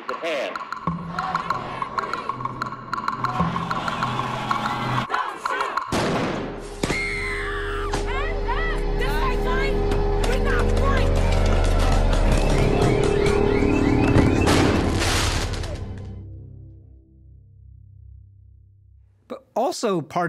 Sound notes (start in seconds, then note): 1.0 all shouting; 5.3 woman screams; 10.1 car alarm chirps